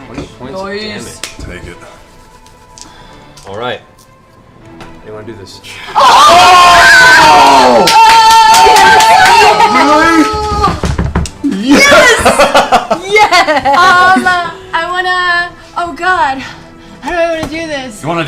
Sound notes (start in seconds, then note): 5.9 cheering